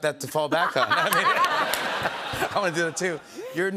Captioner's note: laughter